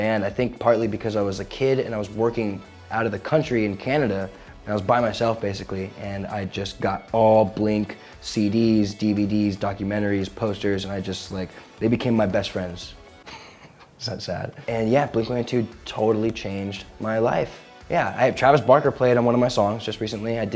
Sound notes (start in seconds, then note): 13.2 chuckles